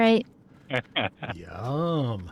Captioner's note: laughs